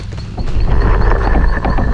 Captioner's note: growl